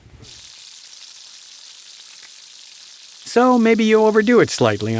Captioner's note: oil sizzles; voiceover